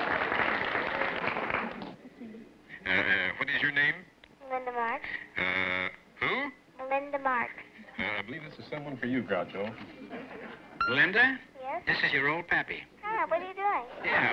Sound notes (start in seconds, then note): 0.0 applause; 4.5 on phone; 6.8 on phone; 11.0 on phone; 12.8 on phone